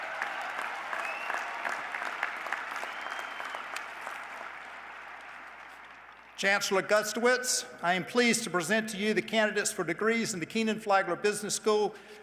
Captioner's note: cheers and applause